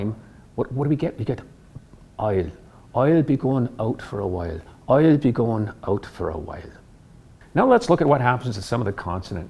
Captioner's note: in Irish accent